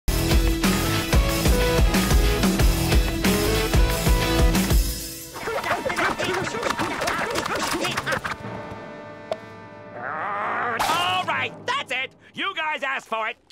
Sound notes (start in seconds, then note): 5.4 screaming